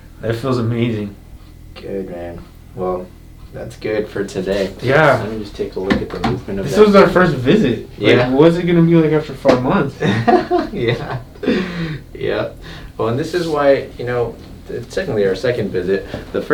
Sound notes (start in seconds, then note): 9.8 laughs